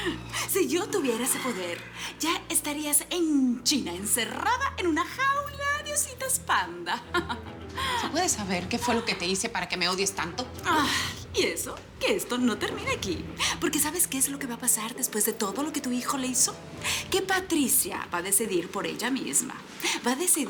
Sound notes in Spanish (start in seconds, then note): 7.9 Risas